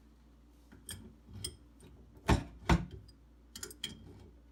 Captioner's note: wrench clinks